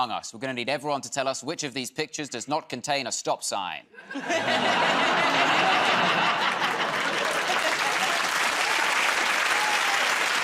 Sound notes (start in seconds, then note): 6.4 laughter; 9.5 applause